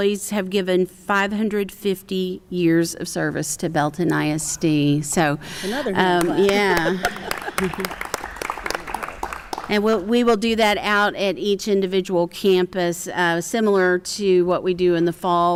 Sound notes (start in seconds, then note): 6.1 applause